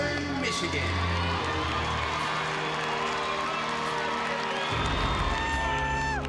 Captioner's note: cheering